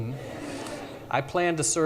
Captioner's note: audience laughs